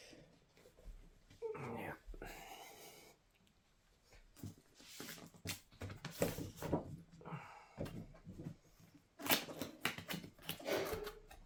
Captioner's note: sounds: Opening the package, coughing